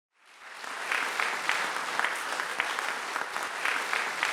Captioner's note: audience applauding